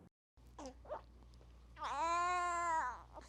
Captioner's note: baby crying